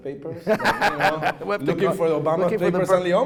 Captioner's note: laughing